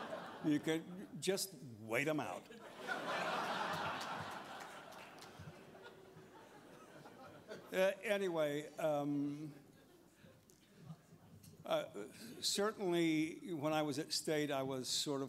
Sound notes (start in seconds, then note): 9.0 laughter